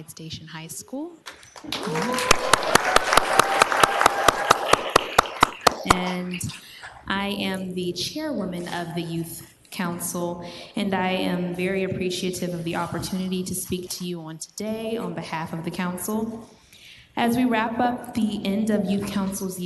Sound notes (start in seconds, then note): 4.6 cheering; 5.2 applause